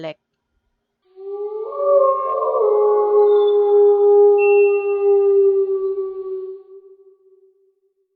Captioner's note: wolf howling